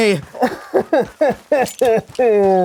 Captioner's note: poorly acted sobbing